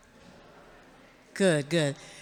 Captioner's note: audience murmurs